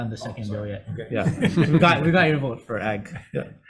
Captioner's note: members laugh